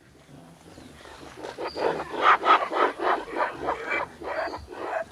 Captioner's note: monkeys grunting continues